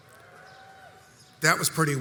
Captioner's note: crowd cheers